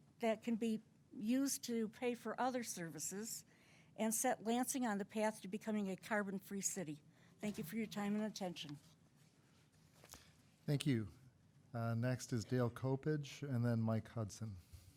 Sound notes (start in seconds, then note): none